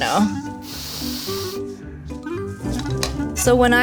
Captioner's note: sniffing